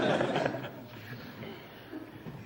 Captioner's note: laughter